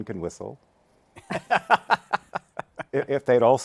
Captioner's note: laughs